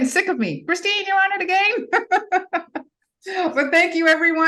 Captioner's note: laughs